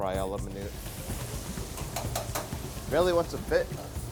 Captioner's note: fryer crackles